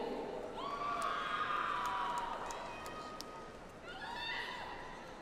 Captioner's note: audience applauds